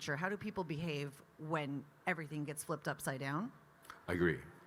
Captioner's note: none